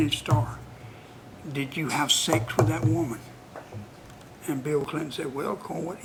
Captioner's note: bangs on table